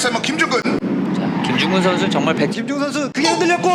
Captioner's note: S c r e e c h i n g !